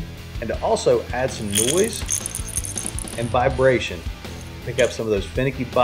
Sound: bait rattles

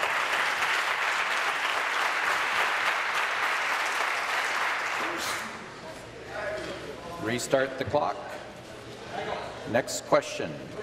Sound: applause

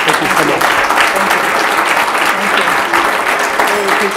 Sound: applause

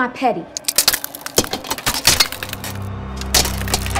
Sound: glass cracking

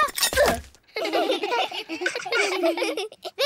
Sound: all giggle

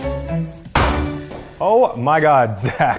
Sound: splat

